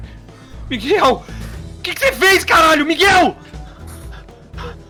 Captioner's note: screaming